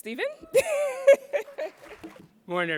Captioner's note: laughing